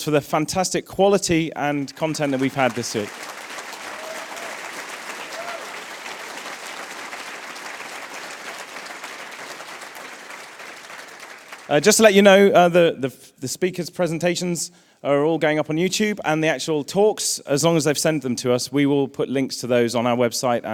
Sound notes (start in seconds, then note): 3.5 applause